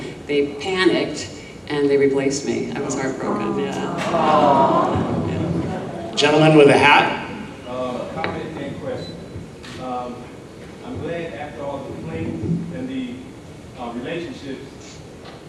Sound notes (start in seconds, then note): 3.0 audience groans sympathetically